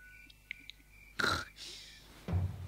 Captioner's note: snorting sound